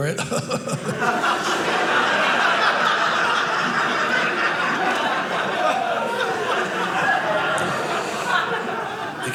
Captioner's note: audience laughing